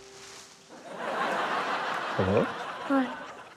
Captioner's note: laughter